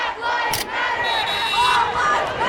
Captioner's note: crowd; car honk; crowd